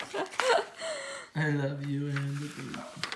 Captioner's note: laughs